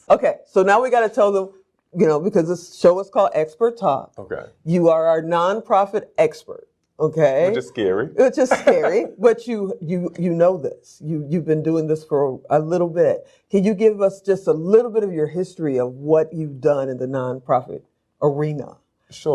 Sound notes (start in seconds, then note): 8.3 laughs